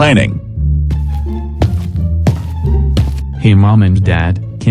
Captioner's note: footsteps